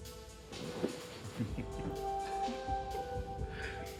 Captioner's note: laughs